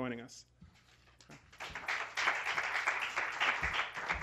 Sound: applause

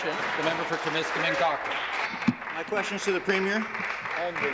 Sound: applause

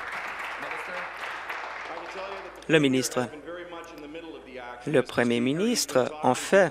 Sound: applause

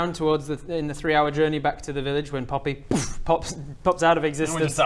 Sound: poof

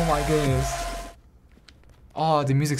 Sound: silence

